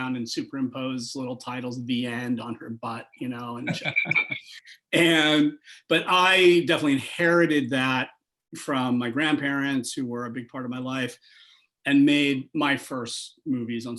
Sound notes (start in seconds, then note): 3.5 chuckles